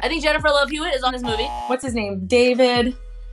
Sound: buzzer rings

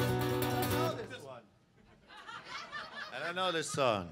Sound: audience laughs

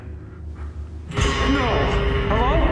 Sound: yelling

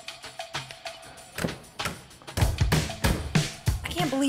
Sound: hammering

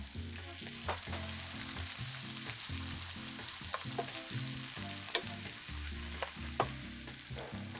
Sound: sizzling

